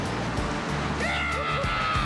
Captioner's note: both cheering and laughing